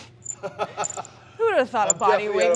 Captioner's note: Sheamus chuckles